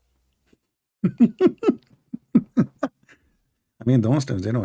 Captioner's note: Ketawa